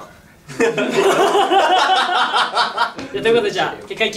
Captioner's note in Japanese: 5men笑い声